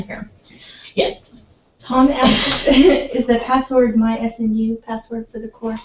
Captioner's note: laugh